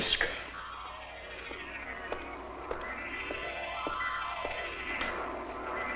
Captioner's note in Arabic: صوت خطوات قوية